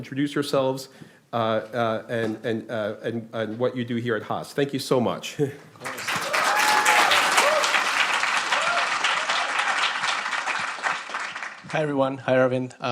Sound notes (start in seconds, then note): 5.8 applause